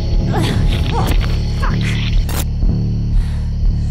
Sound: camera glitching; Stephanie panting

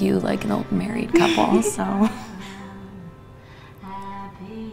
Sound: Jenna chuckles

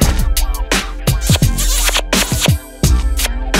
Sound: kissing

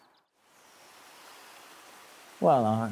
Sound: water pours

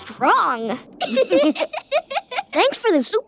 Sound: laughing

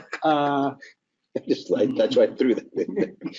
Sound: laughing

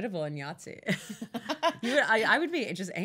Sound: laughing

